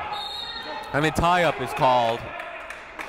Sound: whistle blowing

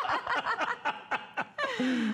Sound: laughter

